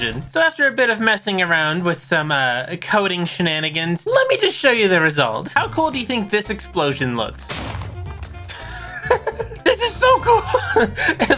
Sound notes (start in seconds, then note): 7.4 boom!; 8.5 laughing